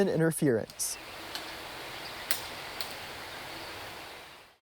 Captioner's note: wind noise